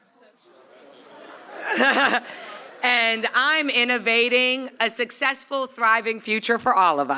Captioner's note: laughs